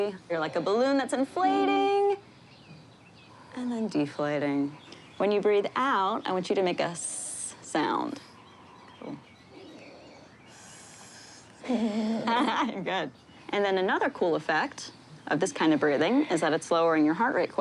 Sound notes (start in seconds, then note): 10.5 hisses; 11.6 chuckles; 11.6 hisses, chuckles